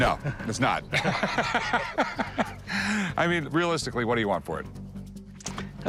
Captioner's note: laughs